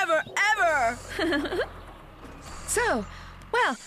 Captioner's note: Wendy Laughing